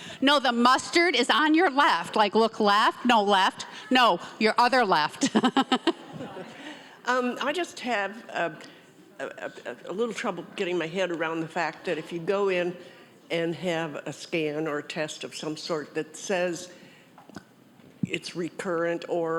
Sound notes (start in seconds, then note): 5.2 laughs